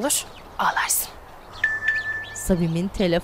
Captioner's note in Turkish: Mesaj zili sesi